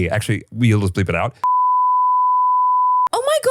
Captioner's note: beep